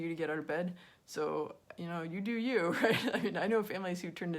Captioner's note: laughing